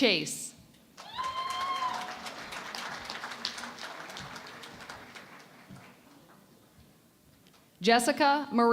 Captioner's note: cheering and Applause